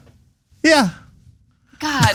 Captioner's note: laugh